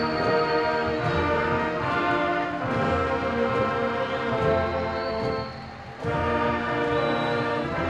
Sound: cheering

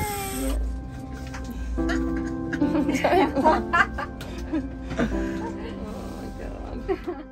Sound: laughs

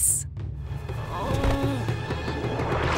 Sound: groaning

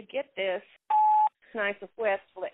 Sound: phone beeps

